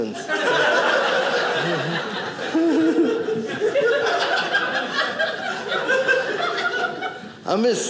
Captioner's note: audience laughing